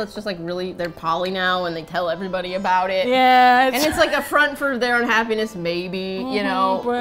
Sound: laughs

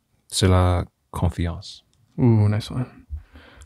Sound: foreign language

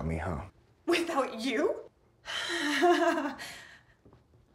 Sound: laughs

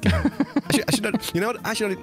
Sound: laughs

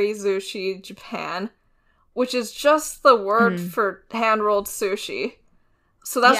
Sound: laughs

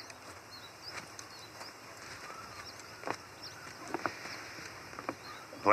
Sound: footsteps; footsteps behind him

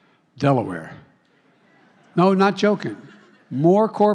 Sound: laughter

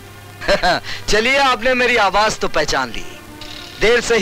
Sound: chuckles

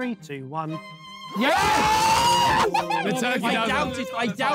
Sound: Blue Team exclaiming

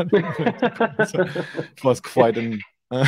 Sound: laughing

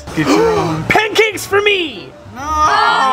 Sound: gasps

